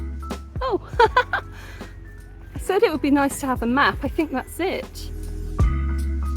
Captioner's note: laughing